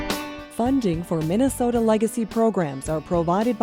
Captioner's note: voiceover